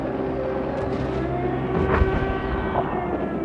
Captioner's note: explosions